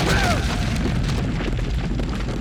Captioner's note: dirt rumbling